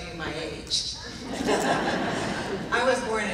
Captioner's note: laughing